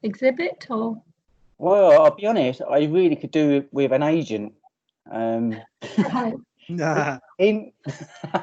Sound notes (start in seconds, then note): 5.1 audience Laughing